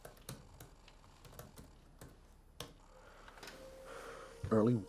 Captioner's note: keys clacking